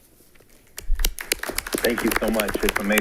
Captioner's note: all clapping